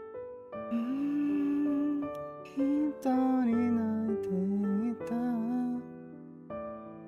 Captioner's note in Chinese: 哼歌